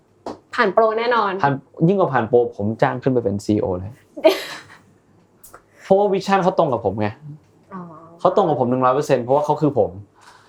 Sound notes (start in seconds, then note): 4.7 laughs